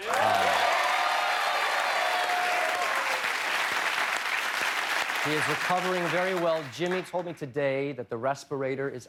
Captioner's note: cheers and applause